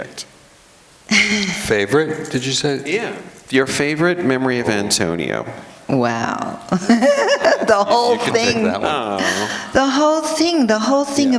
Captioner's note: laughter